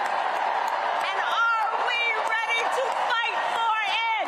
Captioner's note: cheers and applause